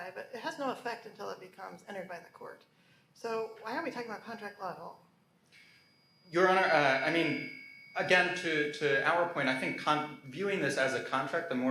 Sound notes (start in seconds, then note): none